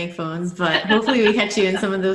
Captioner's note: laughs